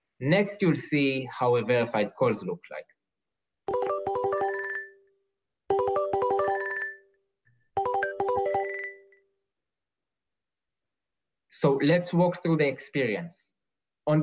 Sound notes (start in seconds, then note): 3.8 ringtone